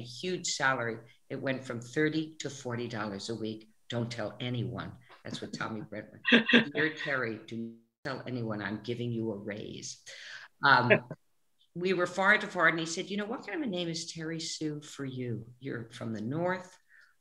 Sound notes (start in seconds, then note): 10.8 laughs